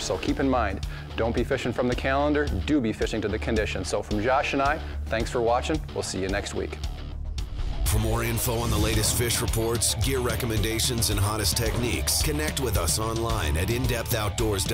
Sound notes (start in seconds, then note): 8.1 voiceover